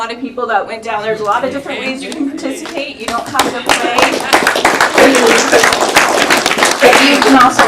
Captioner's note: applause